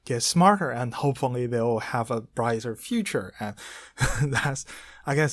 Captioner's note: laughs